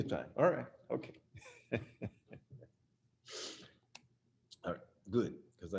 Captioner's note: chuckles